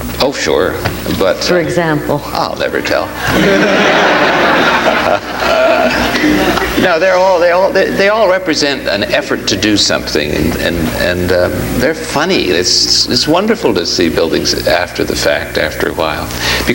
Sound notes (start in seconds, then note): 3.1 audience laughs